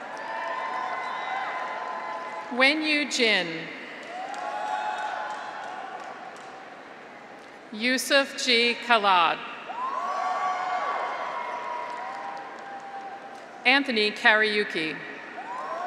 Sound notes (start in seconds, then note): 0.0 graduates cheer; 0.1 audience applauds; 4.0 graduates cheer; 4.0 audience applauds; 9.6 graduates cheer; 11.1 audience applauds